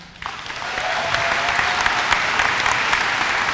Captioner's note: applause